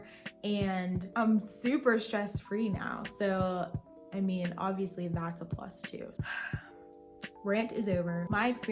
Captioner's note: sigh